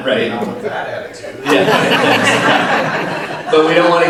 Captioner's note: all laugh